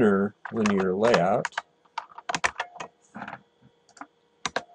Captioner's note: typing